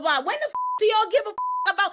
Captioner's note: beep